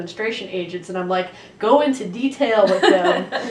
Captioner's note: laughter